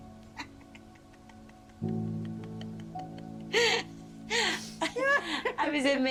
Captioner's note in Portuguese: risos